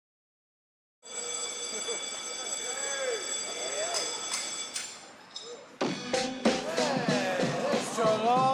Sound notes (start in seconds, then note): 1.0 bell ringing; 1.6 laughter, chatter